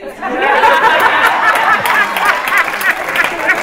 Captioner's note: laughter